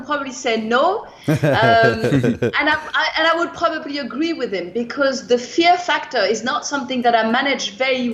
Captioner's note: laughter